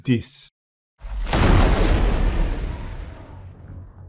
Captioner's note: explosion